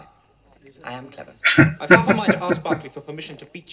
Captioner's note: laughing